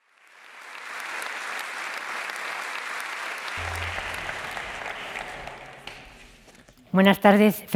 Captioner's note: applause